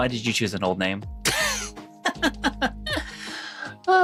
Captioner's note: laughing